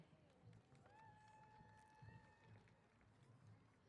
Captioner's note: applause & Cheers